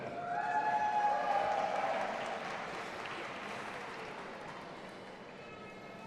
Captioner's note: audience applauding and cheering